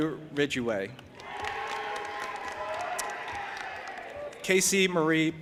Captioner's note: audience applauding and cheering